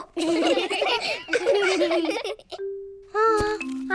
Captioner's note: children laughing; all laugh